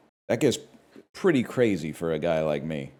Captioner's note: none